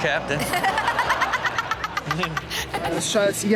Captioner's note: Chanel laughs